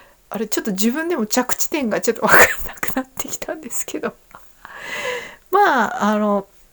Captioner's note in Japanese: 息をのむ音